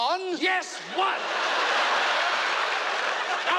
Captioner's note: crowd laughing